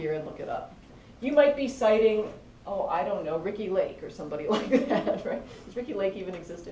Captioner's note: laugh